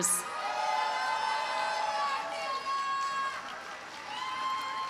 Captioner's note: audience cheers and applauds